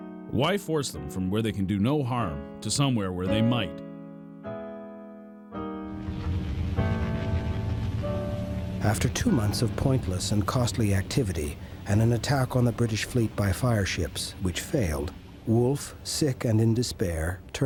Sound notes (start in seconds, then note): 5.9 fire crackling